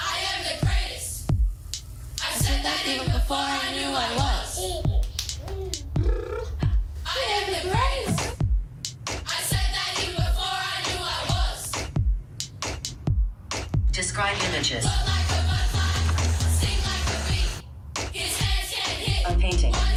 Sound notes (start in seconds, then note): 4.2 baby laughs; 6.3 blows raspberries